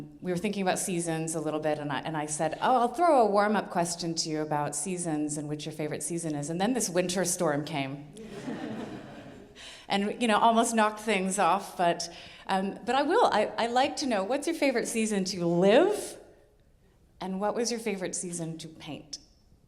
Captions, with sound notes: we were thinking about seasons a little bit, and I said, "Oh, I'll throw a warm-up question to you "about seasons and which your favorite season is," and then this winter storm came... (audience laughing) and, you know, almost knocked things off. But I will, I'd like to know, what's your favorite season to live and what was your favorite season to paint?